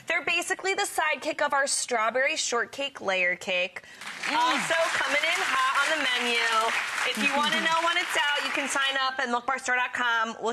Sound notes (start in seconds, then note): 4.0 audience applause